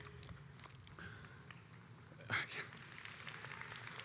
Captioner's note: audience applauds